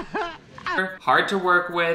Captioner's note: laughing; Shane grunts